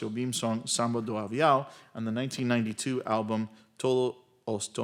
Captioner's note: speaks Spanish